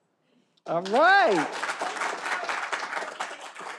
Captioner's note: all applauding